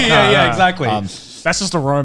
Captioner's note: laughs